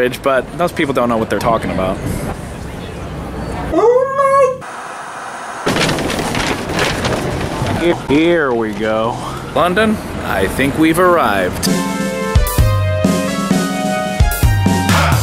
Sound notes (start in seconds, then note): 4.6 static hissing; 4.6 wind blowing; 11.6 upbeat music